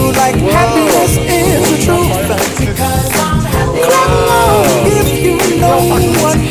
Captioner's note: exclamation